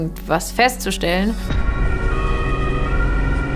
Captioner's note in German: Sirene